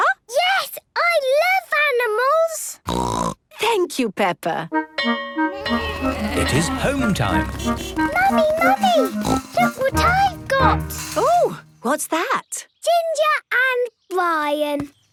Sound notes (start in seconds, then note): 2.8 snorting; 5.0 bell clanging; 7.3 honking